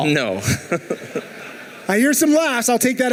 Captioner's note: laughing